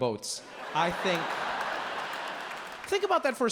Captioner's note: audience laughs